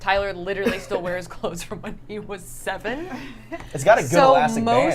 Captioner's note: laughs